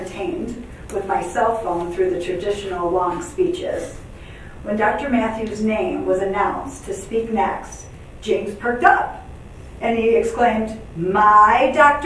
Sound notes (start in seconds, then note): none